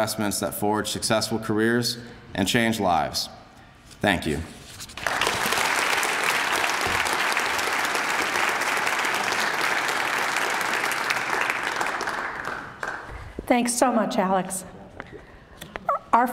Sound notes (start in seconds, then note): 4.9 applause